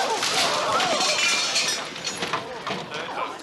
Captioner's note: crowd gasping